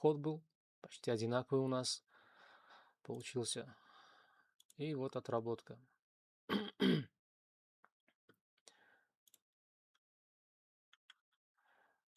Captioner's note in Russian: откашливается; кашель